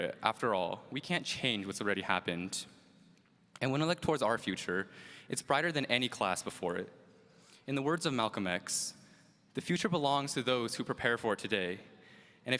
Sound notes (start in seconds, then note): none